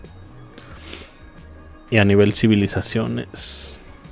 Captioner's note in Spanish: resoplido